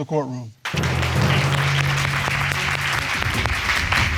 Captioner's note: audience applauding